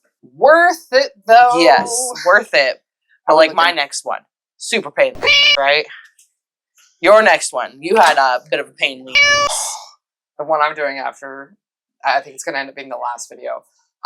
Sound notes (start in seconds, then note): 5.2 meow; 9.1 meow